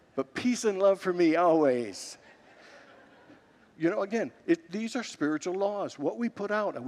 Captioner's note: congregants laugh